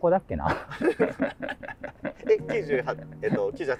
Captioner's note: laughing